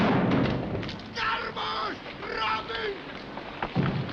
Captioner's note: loud Bang; Captain of SS Nyanga shouting in the background